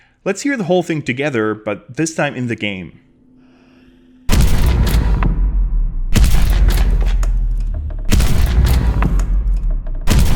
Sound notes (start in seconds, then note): 4.2 succession of thuds